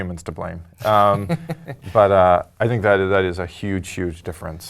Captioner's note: laugh